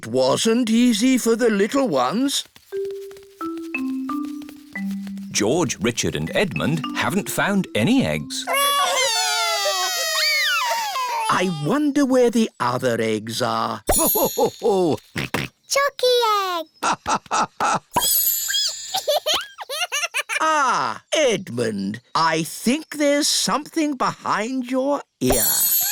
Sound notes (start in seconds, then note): 8.5 wailing; 14.3 laughing; 17.2 squeaking; 18.9 giggling